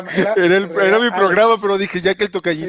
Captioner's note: laughs